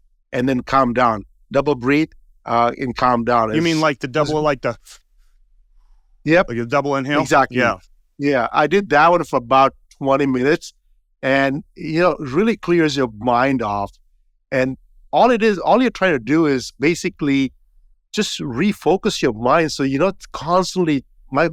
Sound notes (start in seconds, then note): 5.0 breathing sounds